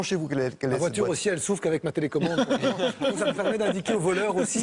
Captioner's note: laughters